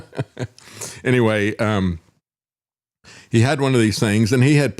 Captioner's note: laughs